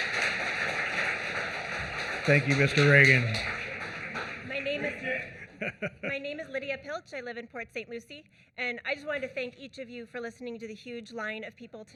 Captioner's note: applause